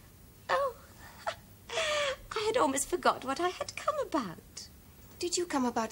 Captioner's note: giggles